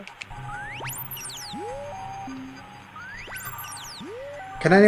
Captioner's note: radio tones beeping